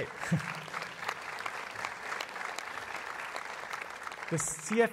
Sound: applause

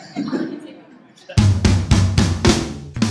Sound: chuckles; upbeat rock music

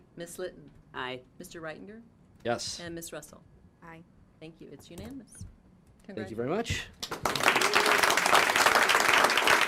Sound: applause

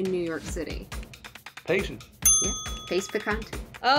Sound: bell ding

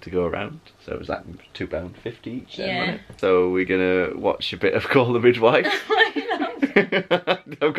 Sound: laughing

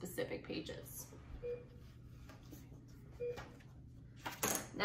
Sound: beeping

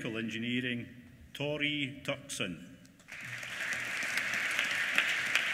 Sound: applause

